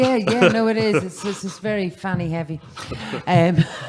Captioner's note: background laughter